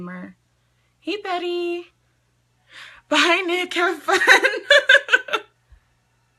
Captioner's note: laughing